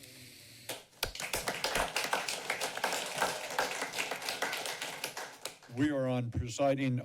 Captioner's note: applause